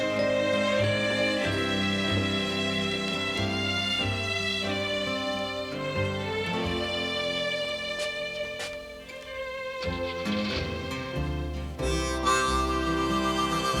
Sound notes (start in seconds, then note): 9.7 car engine starts up